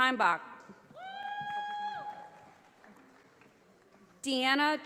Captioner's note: audience applauding